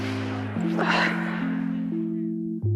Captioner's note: sighs